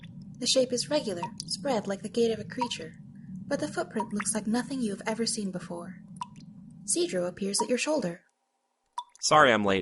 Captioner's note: soft howling of wind stops